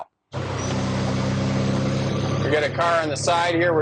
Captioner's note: engine rumbling